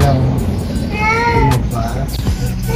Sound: Mapa Meowing

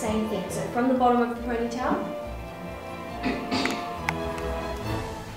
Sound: clears throat

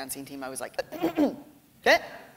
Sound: clearing throat

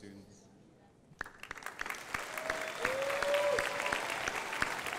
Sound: crowd applauding

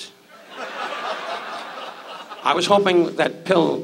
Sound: audience laughs

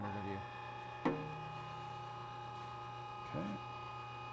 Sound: machine roaring

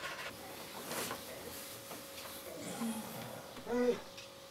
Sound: blankets rustling

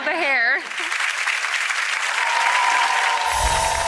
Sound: audience applause; heavenly music

